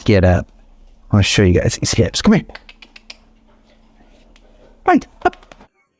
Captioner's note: clicks tongue